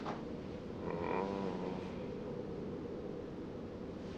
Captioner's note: faint moaning